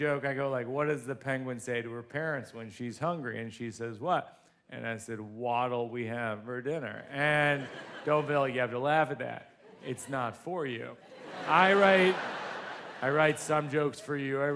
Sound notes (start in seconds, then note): 7.3 audience laughs; 11.0 audience laughs